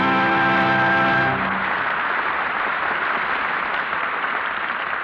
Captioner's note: applause